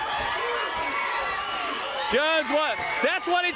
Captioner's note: crowd cheering